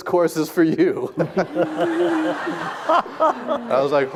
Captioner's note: audience laughing